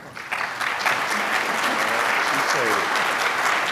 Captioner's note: applause